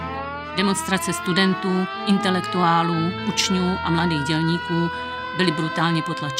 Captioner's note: siréna